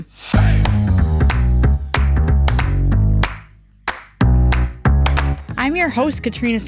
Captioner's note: bright upbeat music; hands clapping